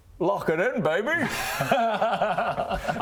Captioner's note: laughs in BS